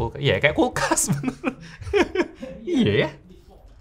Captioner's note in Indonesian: tertawa